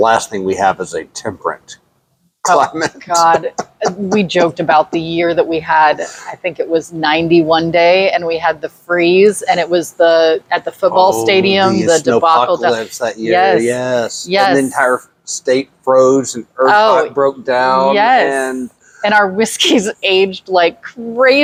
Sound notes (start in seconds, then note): 2.4 laughs